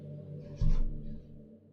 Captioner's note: quiet maintenance worker hammering